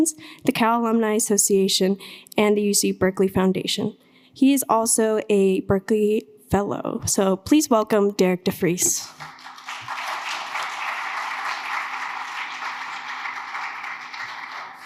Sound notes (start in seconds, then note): 9.0 audience applauding